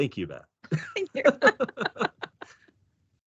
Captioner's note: laughing